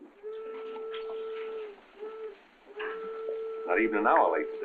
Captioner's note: train whistles